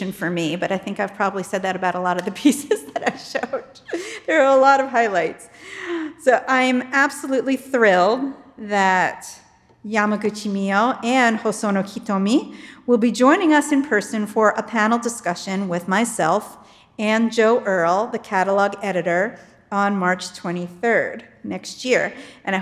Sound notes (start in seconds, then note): 4.2 laughs